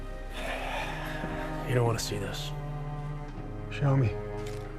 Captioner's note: sighs